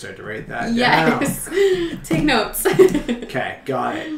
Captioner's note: laughs